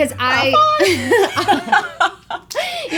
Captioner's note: laughing